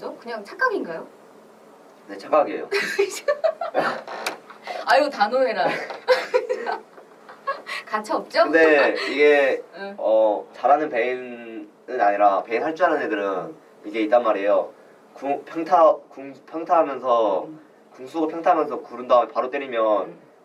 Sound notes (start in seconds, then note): 2.8 laughs